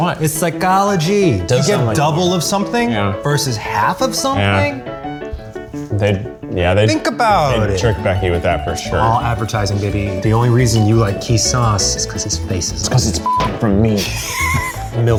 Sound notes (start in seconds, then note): 13.2 beep; 13.6 laughing